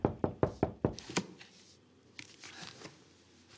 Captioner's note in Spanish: Toques en la puerta